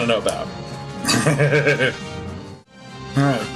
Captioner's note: laughs